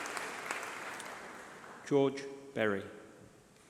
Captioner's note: applause